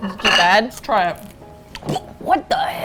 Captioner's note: gags